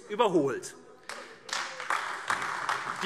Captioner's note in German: Beifall AfD